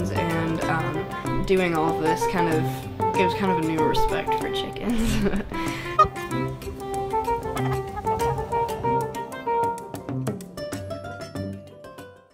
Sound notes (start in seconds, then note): 4.9 laughs; 5.9 bok!